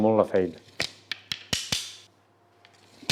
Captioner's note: sticks clapping